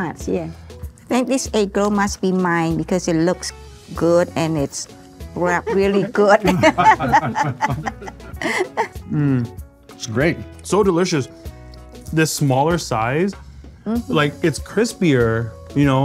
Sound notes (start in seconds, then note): 5.5 cheerfully laughing